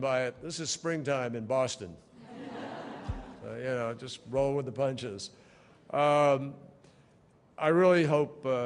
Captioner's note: laughter